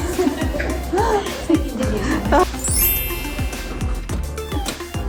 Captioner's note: laugh